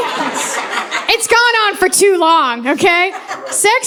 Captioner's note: audience laughing